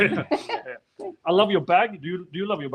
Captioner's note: laughing